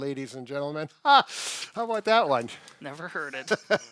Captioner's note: laughs